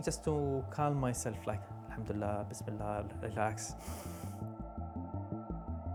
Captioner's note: speaks in foreign language